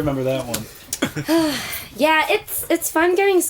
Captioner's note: lady sighs